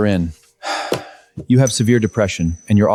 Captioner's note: sighs